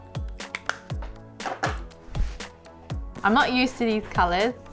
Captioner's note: clacking